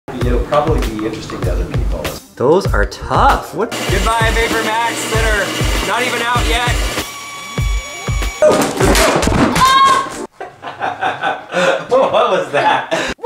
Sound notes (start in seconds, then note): 7.0 saw blade buzzing; 8.4 boxes crashing; 9.4 screams; 10.3 laughs